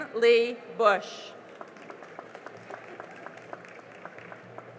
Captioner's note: cheering and applause